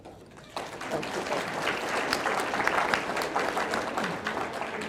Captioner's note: audience clapping